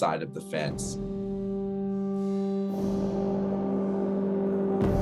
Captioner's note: loud horn blows